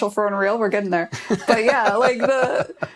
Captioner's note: laughter